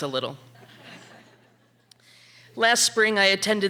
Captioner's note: audience laughing